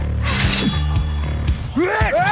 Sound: sword pulls out

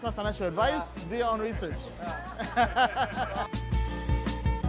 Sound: laughs; happy music

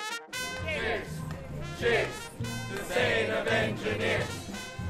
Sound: crowd

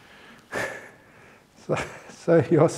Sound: chuckle

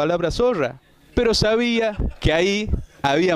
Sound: laughter

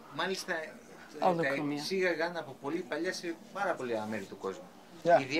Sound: speaking Greek

